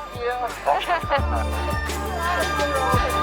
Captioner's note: laughing